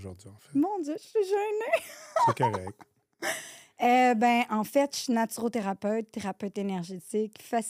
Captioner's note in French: rires